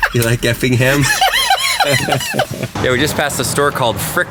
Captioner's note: laughs